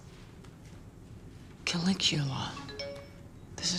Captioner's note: email tone